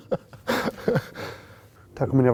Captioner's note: laugh